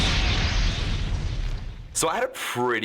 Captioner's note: explosion